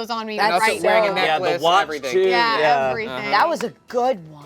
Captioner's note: players chatter